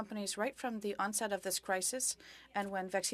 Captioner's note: speaking French